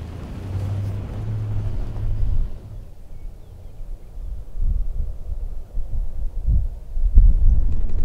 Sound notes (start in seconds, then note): 3.6 wind blowing